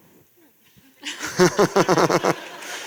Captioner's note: chuckle; applause